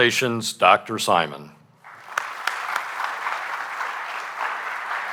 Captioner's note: applause